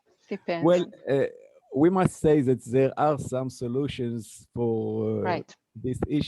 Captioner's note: chuckles